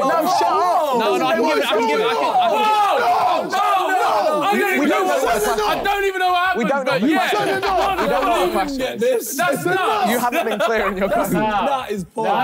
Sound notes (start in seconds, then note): 2.0 yelling